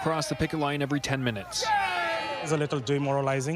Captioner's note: shouting; chanting